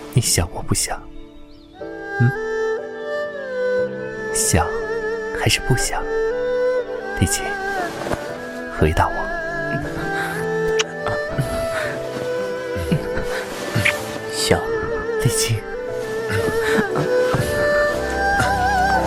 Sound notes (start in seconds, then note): 14.4 moan